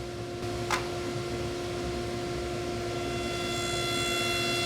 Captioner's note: saw whirring